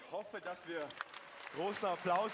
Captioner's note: applause